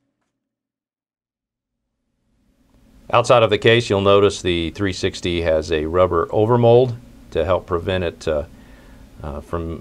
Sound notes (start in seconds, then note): 0.6 pause